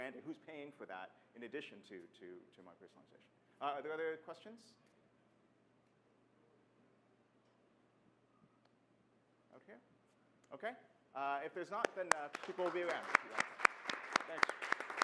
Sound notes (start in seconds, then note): 11.8 applause